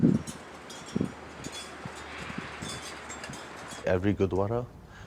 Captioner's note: wind howling; bells tinkling